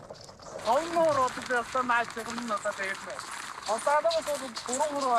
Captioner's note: foreign spoken audio